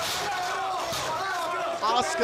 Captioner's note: screaming